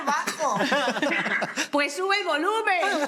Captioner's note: laughter